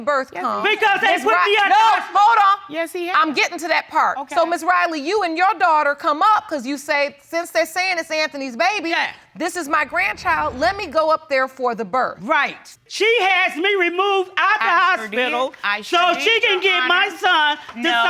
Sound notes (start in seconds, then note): 1.8 yelling